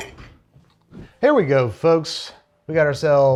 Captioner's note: air whooshes